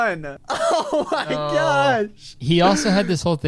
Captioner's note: laughs